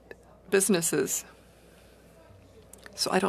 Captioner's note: speaking French